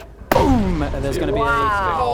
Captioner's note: boom!